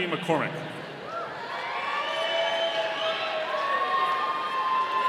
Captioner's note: audience cheering